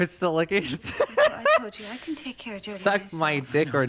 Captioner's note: laughter